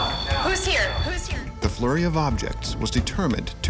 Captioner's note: voiceover